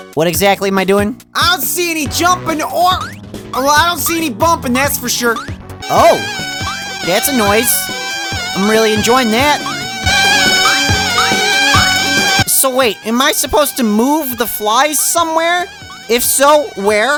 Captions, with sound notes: What exactly am I doing? I don't see any jumping! Or-or I don't see any bumping, that's for sure! (BUZZ) Oh! That's a noise. I'm really enjoying that! (BUZZING) So wait, am I supposed to move the flies somewhere...? If so, where?